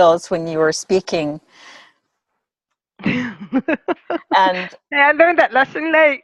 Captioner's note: laughter